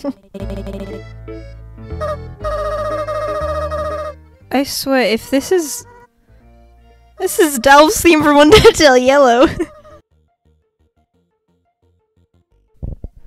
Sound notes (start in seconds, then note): 9.2 laughs